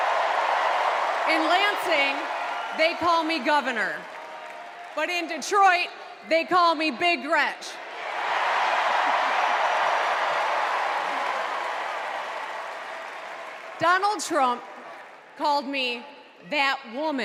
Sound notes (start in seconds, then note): 1.7 cheers and applause